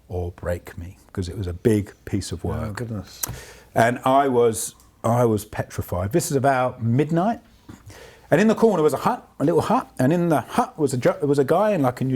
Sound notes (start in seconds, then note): none